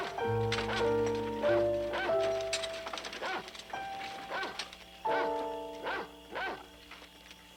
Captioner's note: wagon rattling; dog barking